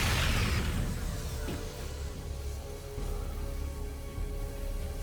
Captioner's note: explosion; tense music